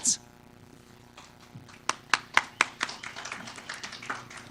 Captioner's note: audience applause